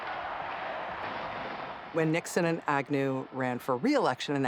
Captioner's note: chanting, clapping